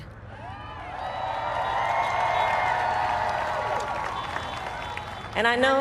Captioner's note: applaud